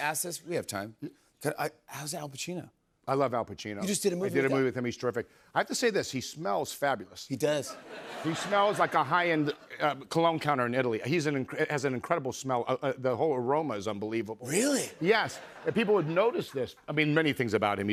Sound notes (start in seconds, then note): 7.6 laughter